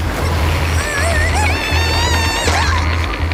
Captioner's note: groaning